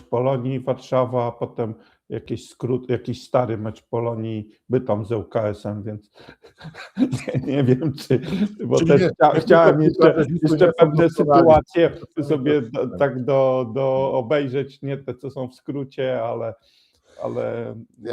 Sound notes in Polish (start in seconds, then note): 6.2 śmiech